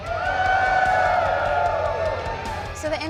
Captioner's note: crowd cheers